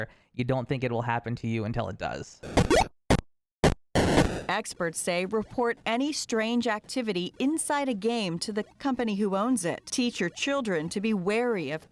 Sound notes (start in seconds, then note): 2.6 game chirping